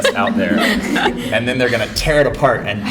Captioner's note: laughter